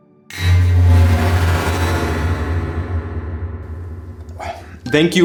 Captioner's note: metallic rumble